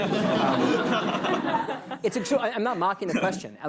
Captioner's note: laughter